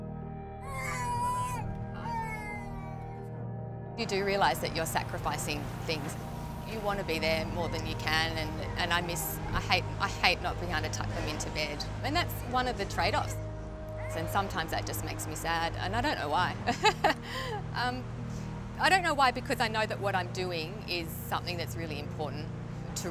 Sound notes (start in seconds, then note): 0.6 cries; 16.6 laughs